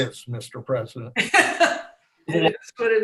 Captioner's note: laughs